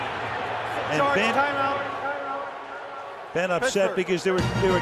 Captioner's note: pa announcement